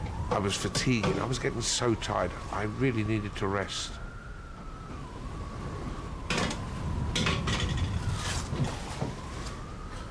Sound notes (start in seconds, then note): 4.5 waves rumbling; 4.5 wind howling